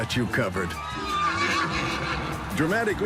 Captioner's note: horse whinnies